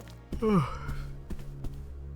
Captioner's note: yawn